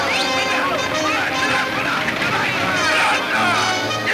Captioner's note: yelling in Spanish